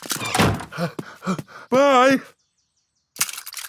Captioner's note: snorts; panting